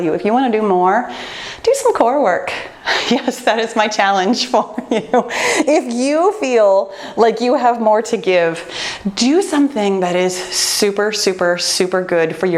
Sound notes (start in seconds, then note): 4.2 laughs